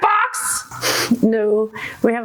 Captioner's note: good natured snicker